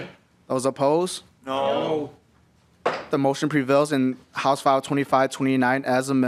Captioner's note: chorus of ayes